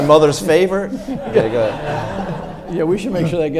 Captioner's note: audience laughs